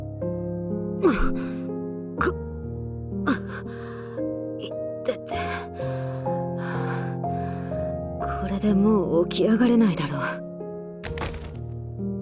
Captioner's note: cough, cough